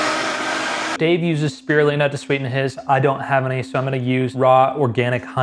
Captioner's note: blender whirring